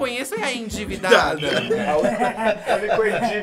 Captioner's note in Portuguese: risos